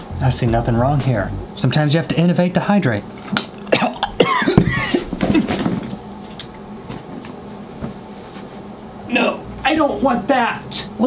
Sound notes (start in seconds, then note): 0.0 funk music; 3.6 chokes; 3.7 coughs